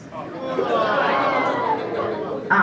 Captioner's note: audience groans